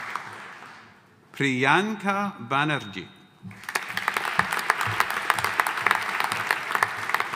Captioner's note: audience applauding